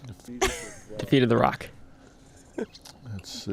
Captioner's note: laughs